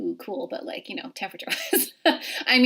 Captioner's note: laughing